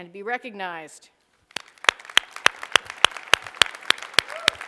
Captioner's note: applause